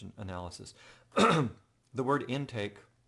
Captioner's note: cough